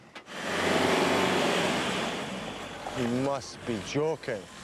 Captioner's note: engine rumbling